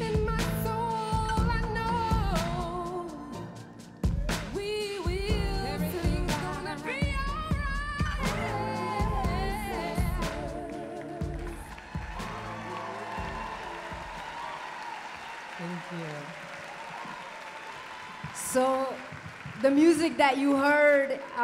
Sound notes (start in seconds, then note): 11.5 applause